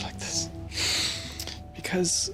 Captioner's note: sniffles